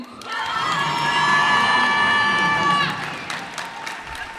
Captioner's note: cheers and applause